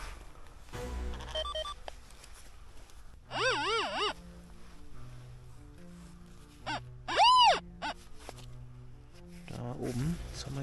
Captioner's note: squeaks